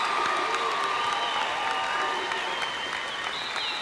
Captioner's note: cheers and applause